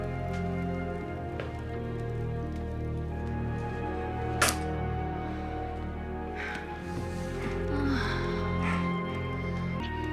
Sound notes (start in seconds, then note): 6.5 soft moaning